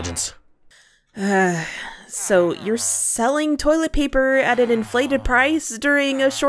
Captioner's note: sighs